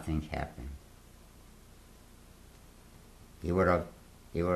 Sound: pauses for 3 seconds

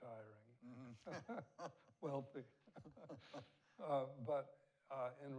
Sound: both laughing

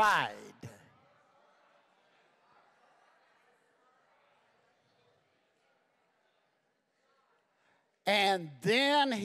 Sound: congregation muttering

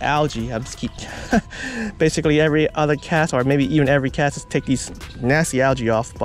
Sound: chuckles

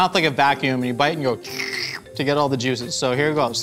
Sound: slurps

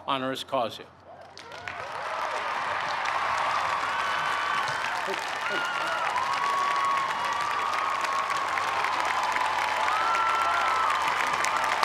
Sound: cheers and applause

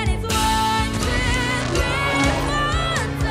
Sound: crackling; audience gasps

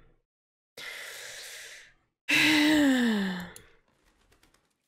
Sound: big sigh

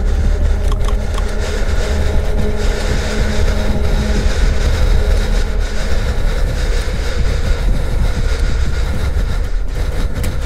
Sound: heavy breathing with a intense ambience music playing; click-click-click; click-click

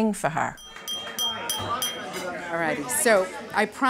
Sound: glass clinking

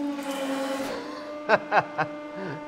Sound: laughter

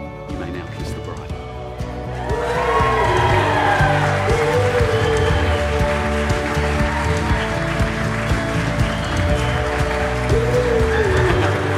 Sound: audience cheering and applauding

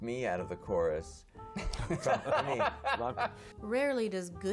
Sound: laughter

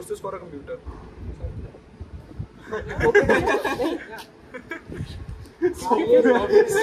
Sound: laughter

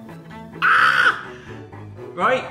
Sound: shrieks

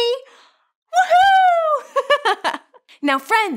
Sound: giggles

